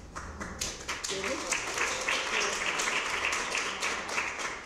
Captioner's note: applause